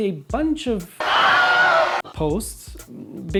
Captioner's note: scream